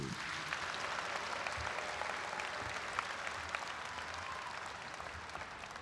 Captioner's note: audience applauds and cheers